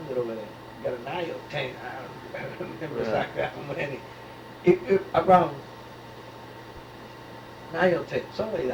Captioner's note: laughs